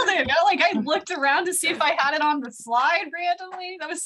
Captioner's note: laughter